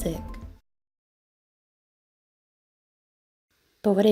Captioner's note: silence